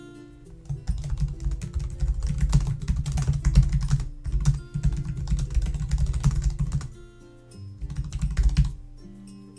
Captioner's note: typing